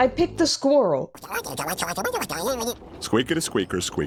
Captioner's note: chittering